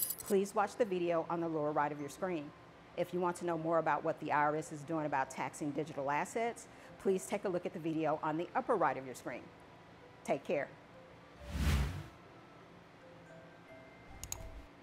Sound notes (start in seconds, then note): 11.4 logo swooshing; 14.1 mouse clicking; 14.2 bell clanging